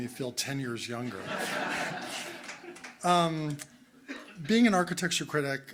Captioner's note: crowd laughing